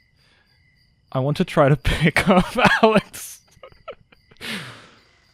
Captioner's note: laughing